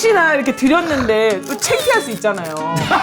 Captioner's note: sob